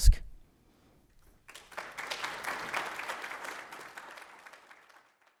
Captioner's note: audience applauding